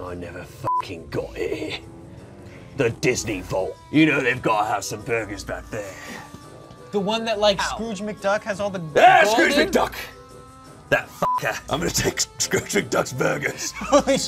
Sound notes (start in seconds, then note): 0.7 beep; 11.2 beep